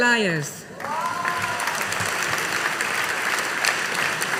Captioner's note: audience applauding